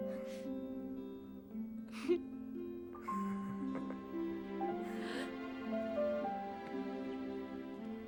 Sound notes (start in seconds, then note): 3.0 Jessica chuckles